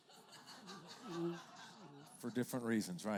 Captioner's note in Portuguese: risos da plateia